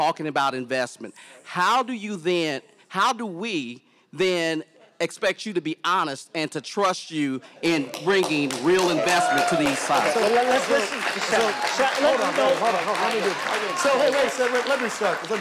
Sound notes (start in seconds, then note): 7.7 audience applauding